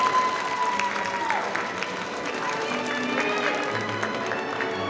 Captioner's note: audience applauding